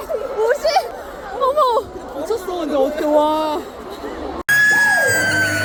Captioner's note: whispers. Murmurs